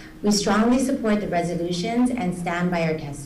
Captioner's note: none